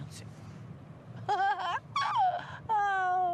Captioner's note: laughs